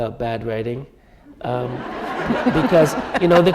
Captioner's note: laughter